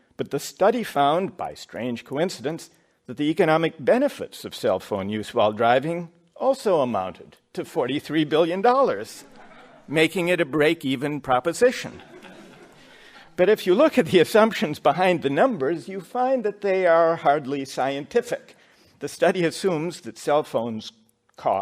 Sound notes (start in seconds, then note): 11.9 laughter